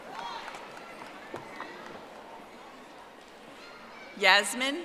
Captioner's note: audience applauding